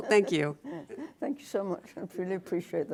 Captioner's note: laughter